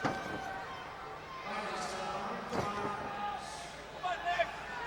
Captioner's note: audience chattering